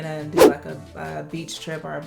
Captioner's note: air whooshing